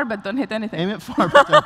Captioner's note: laughs